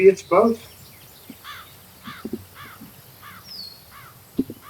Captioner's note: birds chirping